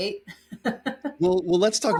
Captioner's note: laughing